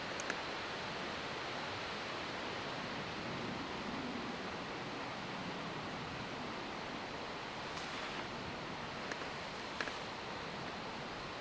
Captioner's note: wind